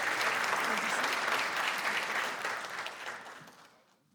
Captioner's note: applause